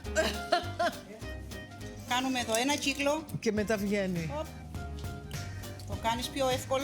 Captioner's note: laughs